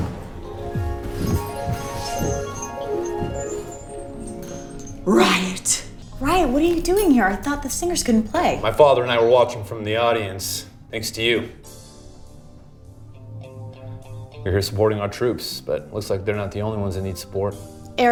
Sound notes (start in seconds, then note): 0.0 harp strings; 5.3 gasps